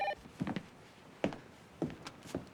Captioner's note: phone rings